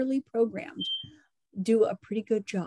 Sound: alarm sound

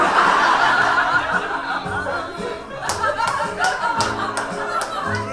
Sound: audience laughs

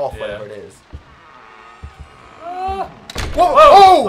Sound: door creaks

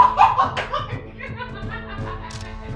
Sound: woman laughing

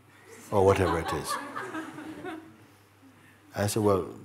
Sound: laughter

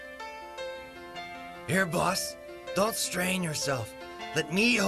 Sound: eastern European accent

